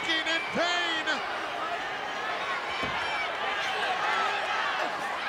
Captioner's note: crowd yelling